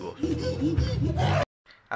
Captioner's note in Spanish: Alaridos de chimpancés